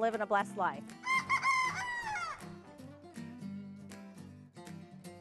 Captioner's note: rooster crowing